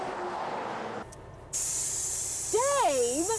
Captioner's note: air hissing